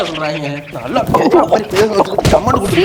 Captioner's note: cuss words and belting